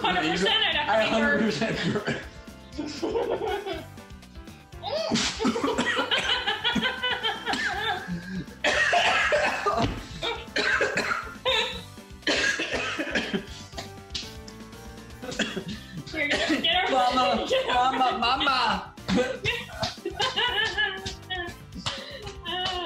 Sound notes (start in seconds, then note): 4.9 laughing and coughing; 18.9 laughing and slapping